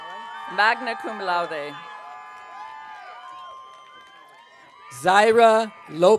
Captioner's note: audience cheering